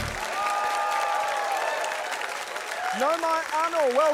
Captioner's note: upbeat fanfare; cheering, applause